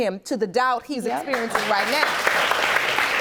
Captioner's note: audience applauding